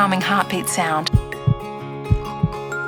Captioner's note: heartbeat